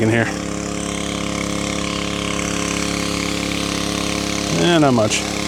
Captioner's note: motor running